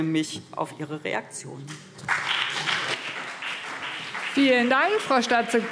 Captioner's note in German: Beifall CDU und BÜNDNIS 90/DIE GRÜNEN